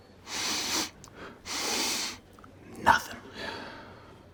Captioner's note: sniffs